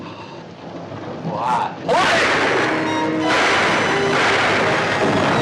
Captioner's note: multiple gunshots